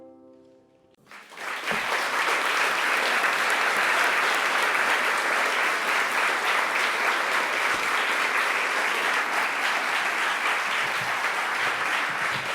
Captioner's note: applause